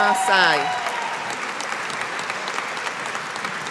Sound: audience applauding

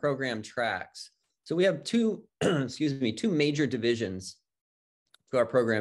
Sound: clears throat

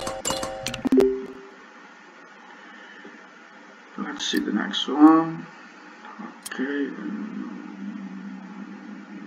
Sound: click

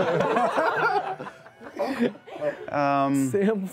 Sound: laughter

